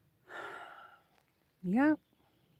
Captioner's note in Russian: вздыхает